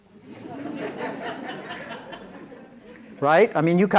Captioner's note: laughter